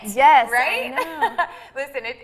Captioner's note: laughs